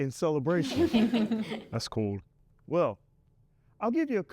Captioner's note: students laugh